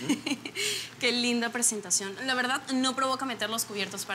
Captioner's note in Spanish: Risas